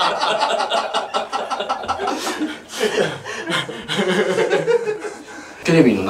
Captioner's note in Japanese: 笑い